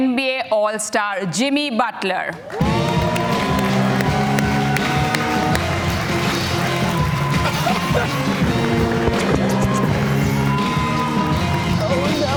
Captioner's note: cheers and Applause